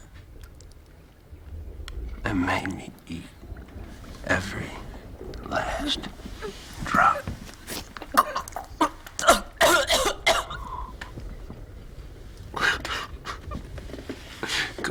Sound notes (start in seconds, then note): 8.1 Sarah gagging; 12.6 Jesse laughing